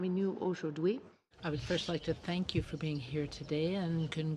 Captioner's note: speaking French